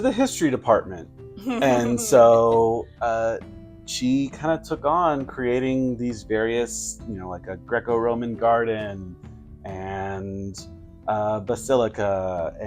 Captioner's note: giggling